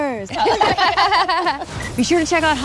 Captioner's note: all laughing